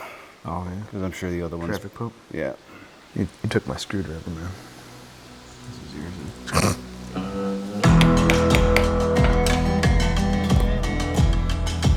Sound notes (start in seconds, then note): 6.4 snorts; 7.9 upbeat brooding western music